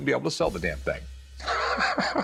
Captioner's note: laughs